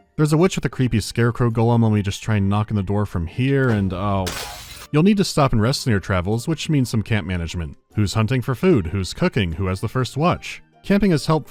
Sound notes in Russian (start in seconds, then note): 3.6 бьётся стекло